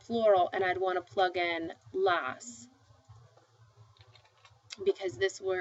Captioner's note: speaking spanish